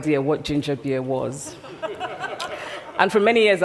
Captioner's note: laughter